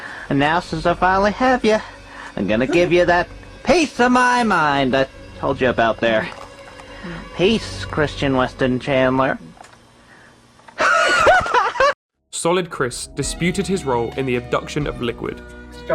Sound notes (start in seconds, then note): 10.8 maniacal laughter